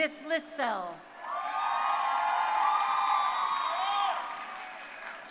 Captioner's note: crowd cheering